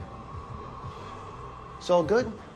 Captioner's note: creepy wind sound effect